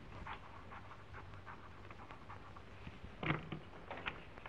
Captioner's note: pen scratching